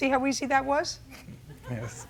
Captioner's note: light laughter